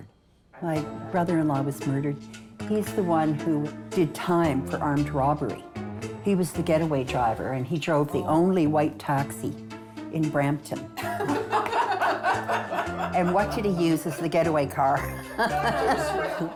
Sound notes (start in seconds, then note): 11.0 women laughing; 14.9 laughing